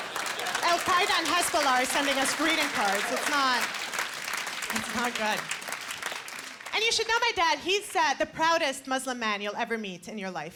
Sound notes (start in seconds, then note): 2.9 applause